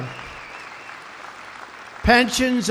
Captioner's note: applause